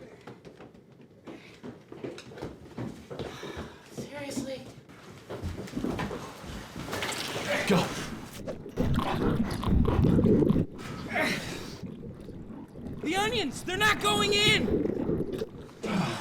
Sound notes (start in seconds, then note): 3.6 sighs; 8.9 squelching